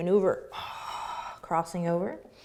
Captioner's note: exhaling